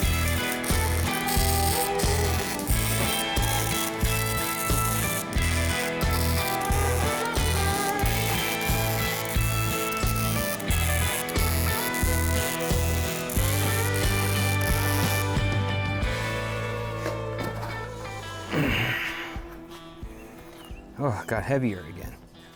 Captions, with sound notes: (upbeat music) (drill whirring) Oh, I got heavier again.